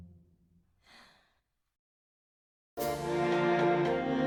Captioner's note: Amy sighs